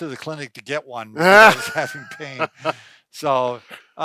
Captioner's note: laughs